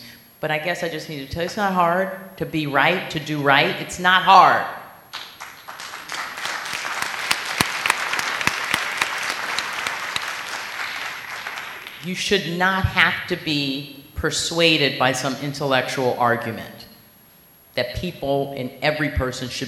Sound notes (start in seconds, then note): 5.1 applause